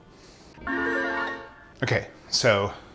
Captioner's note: chiming